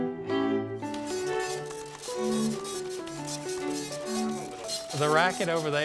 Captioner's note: gentle orchestral music; printer clattering